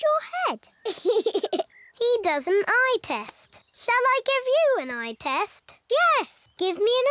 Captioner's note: laughs